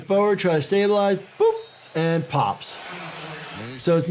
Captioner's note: whistle tweets